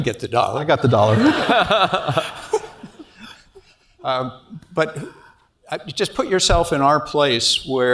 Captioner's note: laugh